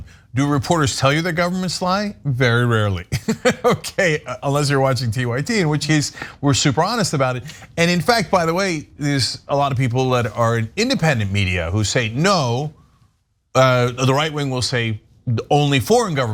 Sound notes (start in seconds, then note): 3.1 laugh